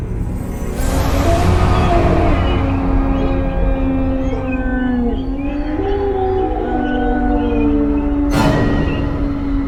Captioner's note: demon howls